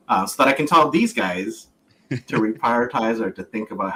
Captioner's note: laughs